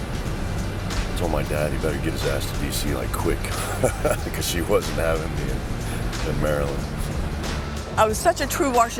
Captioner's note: laugh